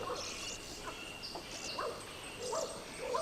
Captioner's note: birds chirp